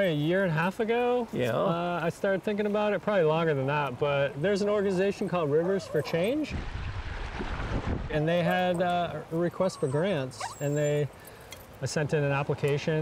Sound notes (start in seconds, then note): 5.8 dogs barking; 5.9 splashing